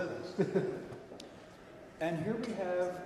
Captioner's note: chuckles